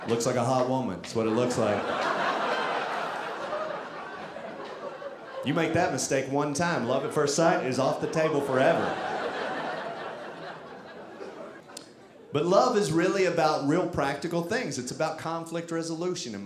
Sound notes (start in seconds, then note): 2.1 audience laughing; 9.0 audience laughing